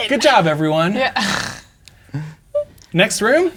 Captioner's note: scoffs